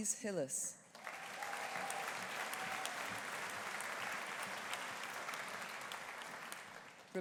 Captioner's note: audience applauding; audience cheering